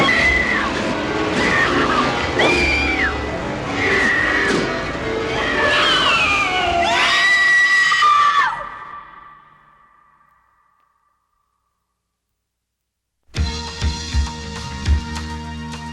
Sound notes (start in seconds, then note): 6.1 Buddy squeals